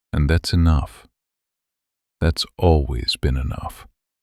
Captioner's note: quiet and steady